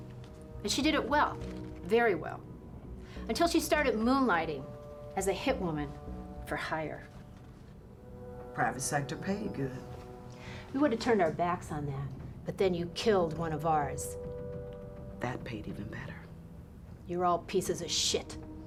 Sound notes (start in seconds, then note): none